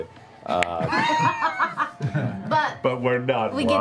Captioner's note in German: Lachen